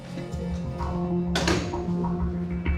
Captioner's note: door clicks shut